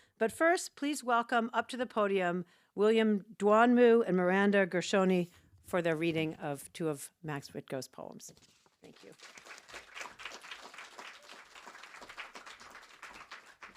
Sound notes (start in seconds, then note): 8.9 attendees applaud